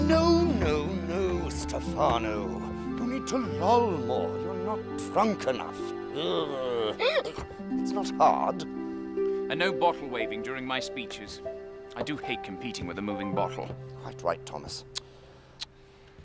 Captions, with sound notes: - No, no, no, Stephano. You need to loll more, you're not drunk enough. (groaning and hiccuping) It's not hard. - And no bottle waving during my speeches. I do hate competing with a moving bottle. - Quite right, Thomas.